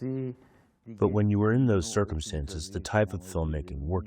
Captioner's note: through translator